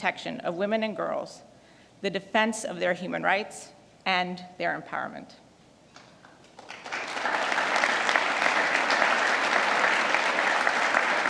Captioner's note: applause